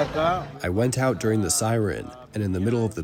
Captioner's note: through translator